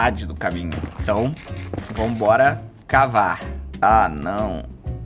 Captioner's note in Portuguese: som de comer no minecraft